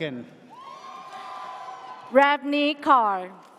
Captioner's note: audience cheers